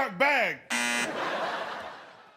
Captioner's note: music trills; buzzer sounds; crowd laughs